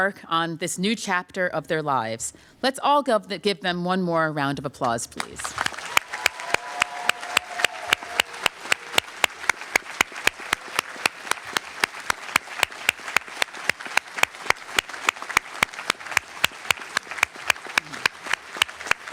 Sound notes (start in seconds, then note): 5.5 applause